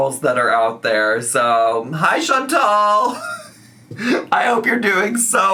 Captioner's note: laughs